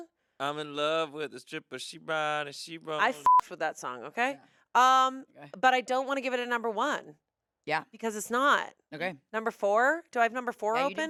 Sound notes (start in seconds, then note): 3.2 beep